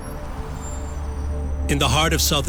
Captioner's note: gentle music; traffic whooshing